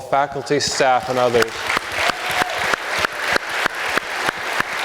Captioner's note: audience applauds